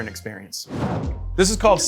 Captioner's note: graphic whooshing